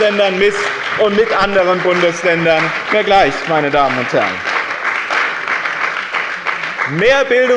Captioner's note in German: Lebhafter Beifall bei dem BÜNDNIS 90/DIE GRÜNEN und der CDU